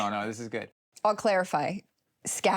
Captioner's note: chuckles